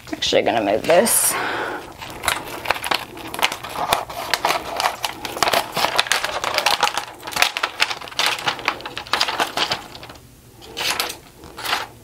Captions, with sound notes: Actually gonna move this. (paper rustling)